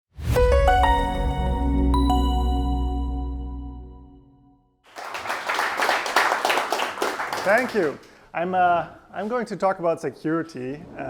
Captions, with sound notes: (soft music) (students clapping) - Thank you. I'm going to talk about security